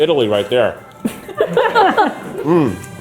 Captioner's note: crew laughing